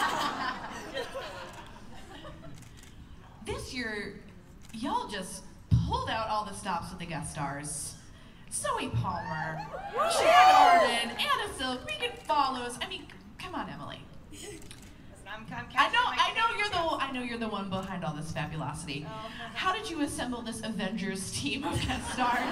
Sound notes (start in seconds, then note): 0.0 laughter; 9.7 cheers and applause; 21.6 laughter